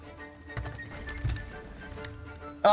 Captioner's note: kaboom